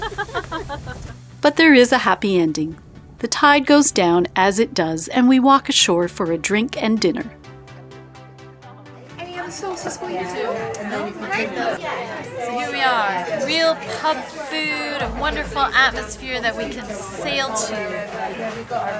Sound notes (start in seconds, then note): 0.0 laughing; 9.4 diners chattering